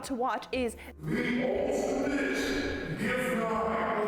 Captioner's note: slow voice